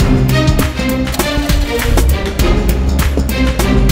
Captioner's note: Engine starts